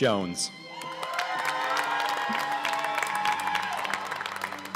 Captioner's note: cheers and applause